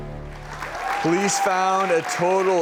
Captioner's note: audience applauds